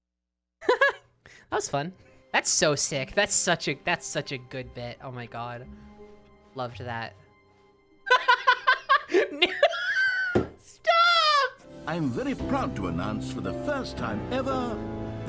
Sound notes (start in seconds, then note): 9.4 laughing, hitting desk; 11.6 dramatic music